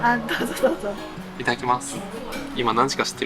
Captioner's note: laughs